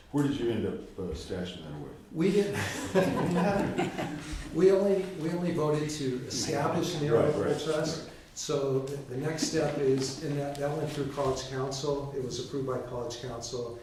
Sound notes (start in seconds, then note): 5.3 laughter